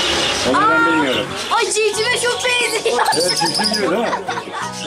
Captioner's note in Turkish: Gülüşmeler